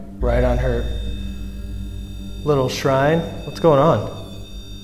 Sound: device whirring

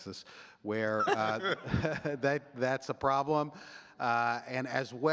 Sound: chuckling

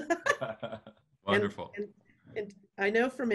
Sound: laughing

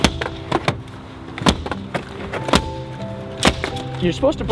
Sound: headrest smacking

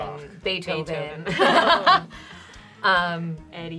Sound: laughter

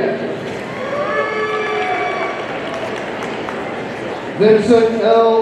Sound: audience cheering

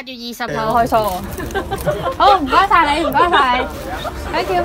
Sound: laughter

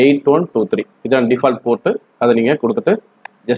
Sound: click

